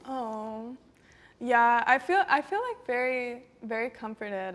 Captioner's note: none